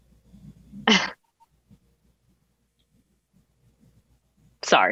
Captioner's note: giggles